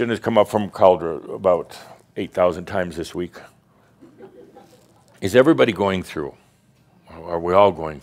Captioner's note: a few snickers